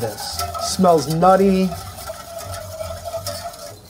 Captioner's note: spoon scrapes against pan